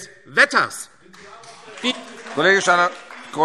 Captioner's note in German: Beifall AfD